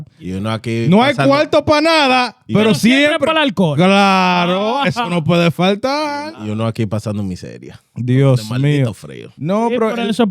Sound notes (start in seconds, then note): 0.9 speaking In Foreign Language